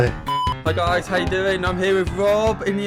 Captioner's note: beep